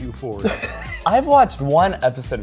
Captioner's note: laughs